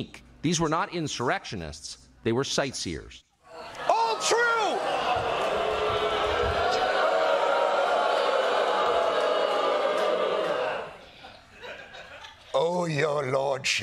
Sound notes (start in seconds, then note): 6.2 audience booing